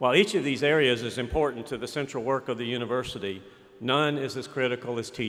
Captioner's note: none